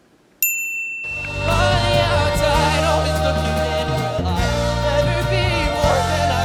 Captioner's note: wink sound